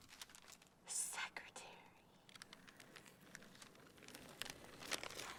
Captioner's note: whispers